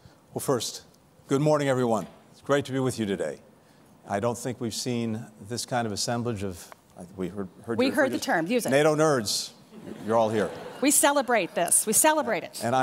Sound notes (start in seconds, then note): 9.7 laughter